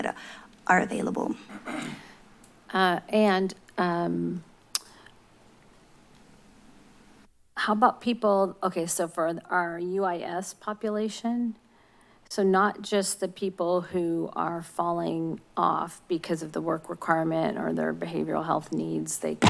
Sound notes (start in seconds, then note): 4.7 smacks lips